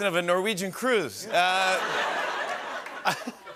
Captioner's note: laughter